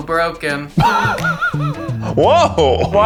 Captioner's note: Keith laughing